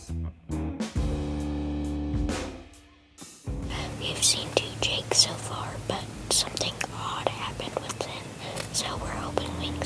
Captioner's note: whispering